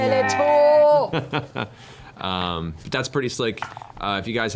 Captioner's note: laughs